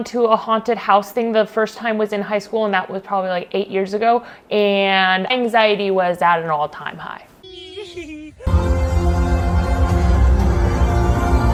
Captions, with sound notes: to a haunted house thing. The first time was in high school and that was probably like eight years ago. And anxiety was at an all time high. (all giggles) (upbeat music)